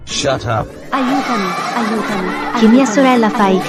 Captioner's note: troublemaker Laughing